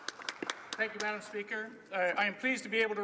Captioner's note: speaking French